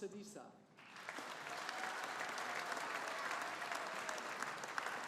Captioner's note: audience applauding